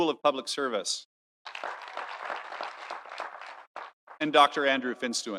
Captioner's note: audience applauding